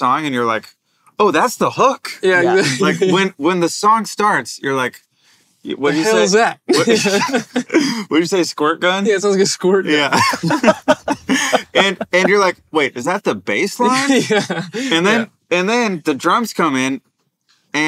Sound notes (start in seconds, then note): 6.7 both laugh; 10.0 they laugh